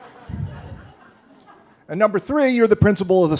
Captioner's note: laughter